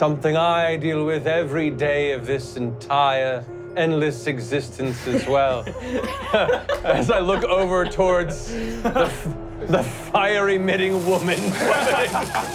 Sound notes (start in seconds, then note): 4.9 laughing